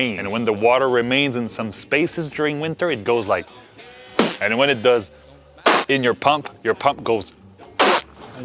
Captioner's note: fart sound